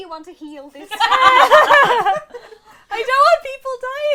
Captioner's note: laughter